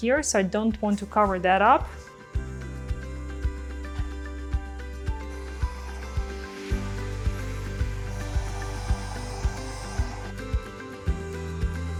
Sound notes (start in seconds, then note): 3.3 blow dryer hums; 3.3 uplifting music